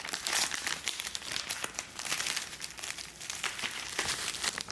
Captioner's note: paper rustling